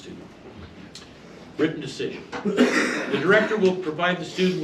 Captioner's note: male audience member coughs boisterously